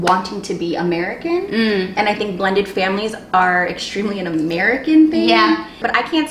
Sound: mmm

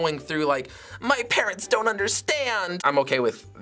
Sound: whiny voice

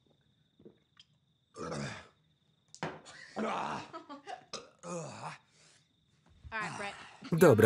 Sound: laughter; grunting

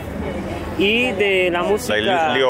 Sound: speaking Spanish

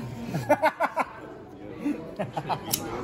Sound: a hearty laugh

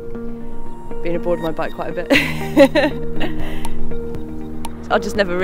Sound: laughing

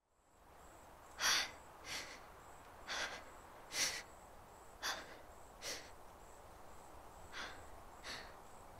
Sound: heavy breathing

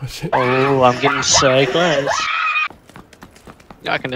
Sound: screams of terror

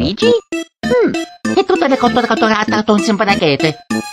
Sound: italian Speak

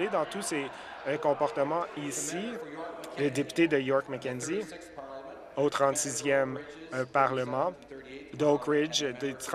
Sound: laughter

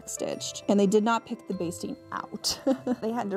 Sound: laughs

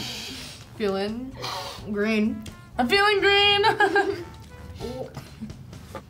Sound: laughs

